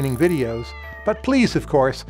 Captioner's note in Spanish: maullido